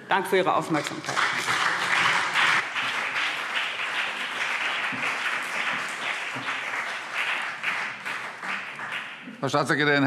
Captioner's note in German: Beifall CDU und BÜNDNIS 90/DIE GRÜNEN